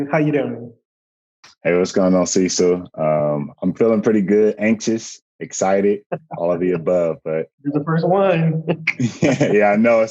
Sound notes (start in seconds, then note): 8.6 laughs